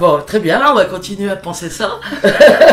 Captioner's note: laughs